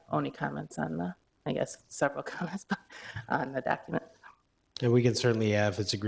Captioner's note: chuckle